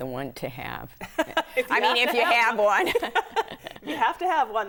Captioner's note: laughing